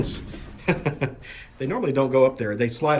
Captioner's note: laughs as chicken jumps on nesting box